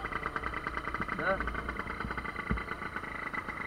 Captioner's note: we hear nothing because of the noise of the motorcycle